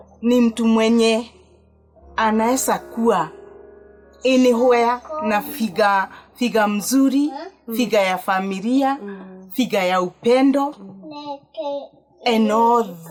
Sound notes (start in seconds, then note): 11.0 baby playing in the background